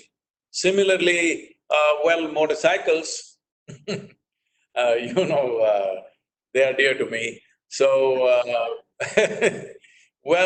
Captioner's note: laughs